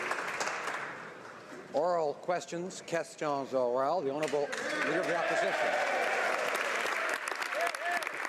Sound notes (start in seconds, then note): 6.0 speaking French